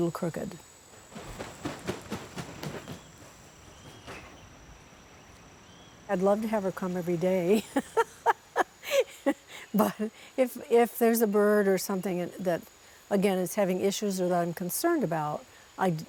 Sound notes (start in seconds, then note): 4.9 wings flapping; 7.6 laughs